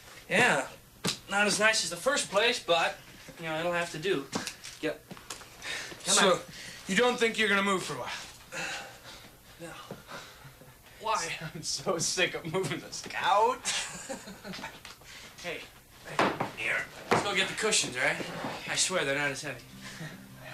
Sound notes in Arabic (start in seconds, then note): 13.7 يضحك